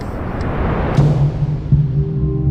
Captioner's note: booming sound; ominous music